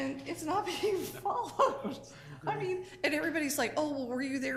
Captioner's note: laughing